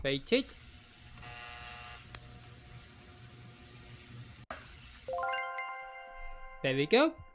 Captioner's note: ultrasonic cleaner sound